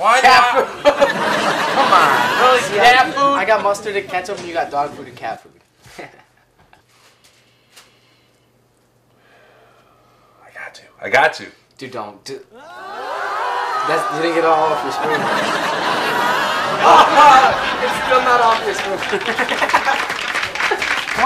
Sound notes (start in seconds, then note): 0.6 audience laughs; 0.7 laughs; 6.3 laughs; 9.2 sighs; 12.9 audience gasps; 15.8 audience laughs; 19.1 laughs; 19.5 audience applauds lightly